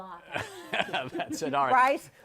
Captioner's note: laughs